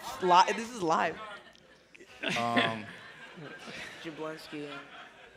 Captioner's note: laughter